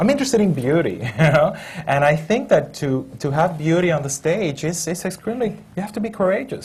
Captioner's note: laughs